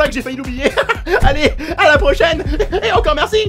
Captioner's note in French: rires chelous; rires énervés